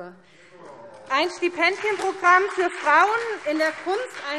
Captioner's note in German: Beifall SPD und DIE LINKE - Zurufe AfD: Oh!